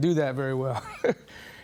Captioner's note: chuckles